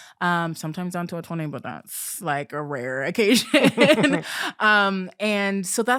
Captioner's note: chuckling